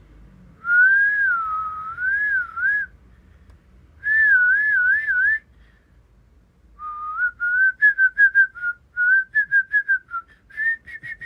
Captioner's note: whistles